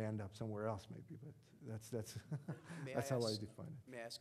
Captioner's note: audience laughing